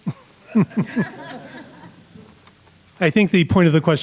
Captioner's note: laughing